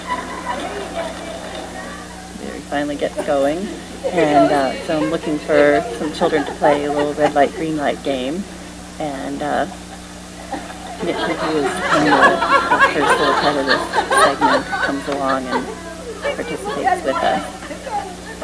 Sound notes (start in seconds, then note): 10.4 laughter